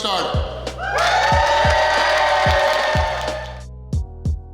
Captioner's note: cheering & Clapping